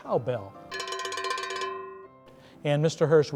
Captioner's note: bell ringing